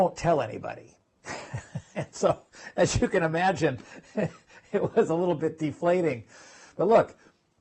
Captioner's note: laugh